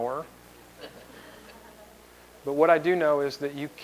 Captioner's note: laughter